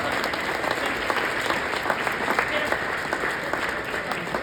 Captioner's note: audience cheers